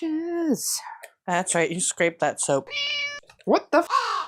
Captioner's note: meow; caw